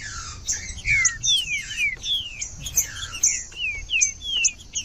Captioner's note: trinca ferro cantando